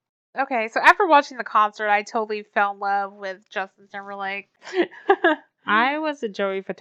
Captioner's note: laughs